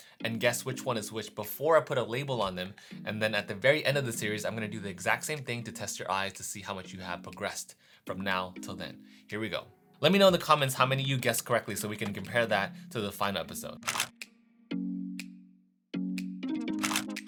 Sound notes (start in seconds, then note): 13.8 shutter clicks; 15.8 smooth, calm music; 16.8 shutter clicks